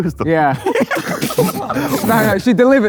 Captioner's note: group laughing